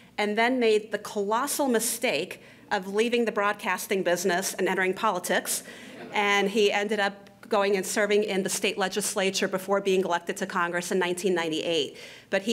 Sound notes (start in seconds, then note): 5.8 laughter